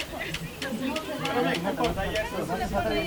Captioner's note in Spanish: risas